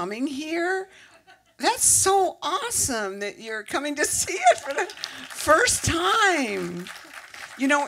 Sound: applause

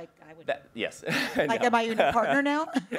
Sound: laughs

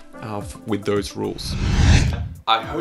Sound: slides whooshing

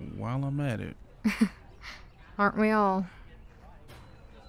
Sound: chuckles

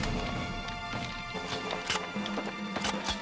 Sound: guns cocking

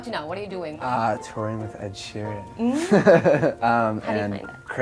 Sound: laughs

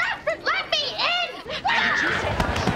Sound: screaming

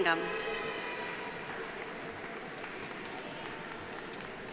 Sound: audience applauding

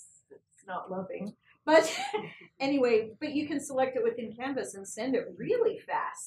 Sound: laugh

